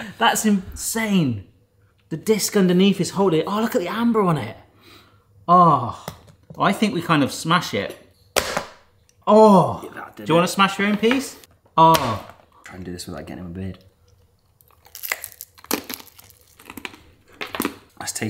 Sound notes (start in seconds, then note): 8.1 frisbee smacks; 12.0 frisbee smacks; 14.1 caramel crunches